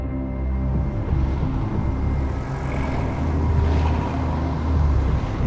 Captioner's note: cars passing